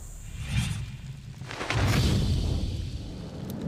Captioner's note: whooshing